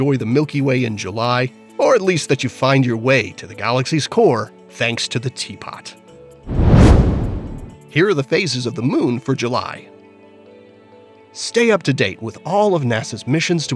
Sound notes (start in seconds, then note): 6.4 meteor whooshes